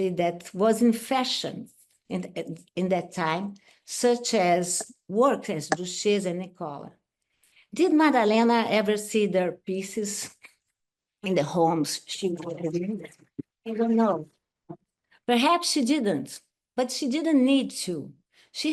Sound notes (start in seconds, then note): 12.3 audio distorts